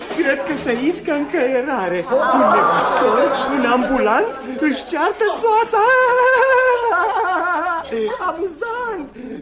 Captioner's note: laughter